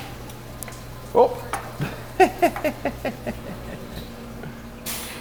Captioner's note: laughing